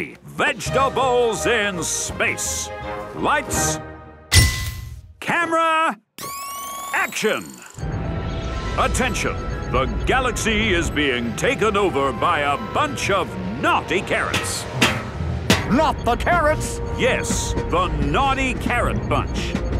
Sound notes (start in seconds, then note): none